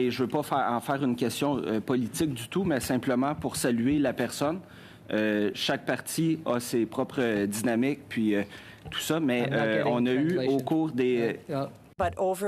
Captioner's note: speaking French